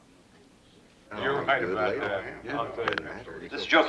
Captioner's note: chattering